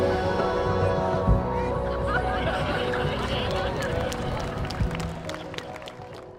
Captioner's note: laughter Cheering and Applause